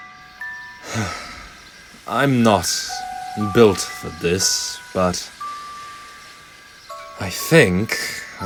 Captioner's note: sigh